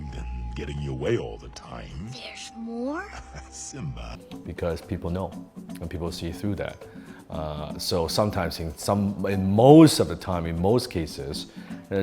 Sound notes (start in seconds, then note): 2.9 laughs